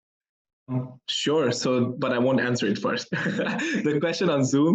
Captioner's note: laughs